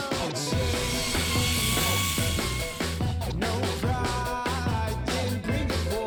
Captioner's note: power tool engine revving; grunge music